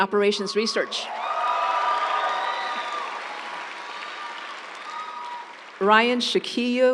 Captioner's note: audience cheering; audience applauds